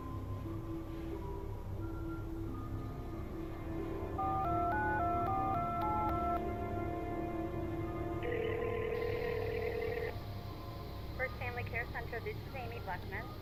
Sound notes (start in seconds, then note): 4.2 dialing; 7.9 ringing